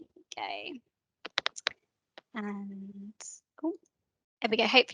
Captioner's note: typing